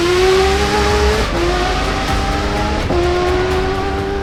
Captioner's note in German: Motorheulen